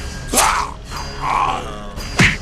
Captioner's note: slashing and choking; punching